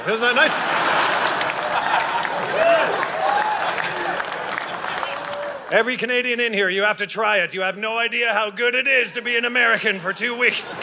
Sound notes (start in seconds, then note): 0.0 audience laughing